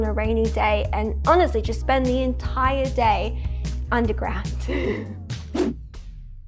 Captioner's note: laughs